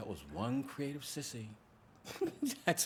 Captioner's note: laughs